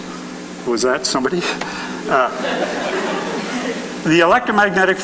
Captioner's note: laughing